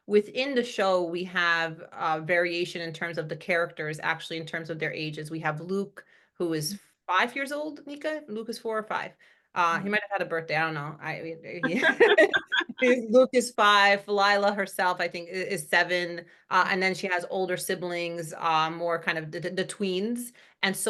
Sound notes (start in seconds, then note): 11.6 laugh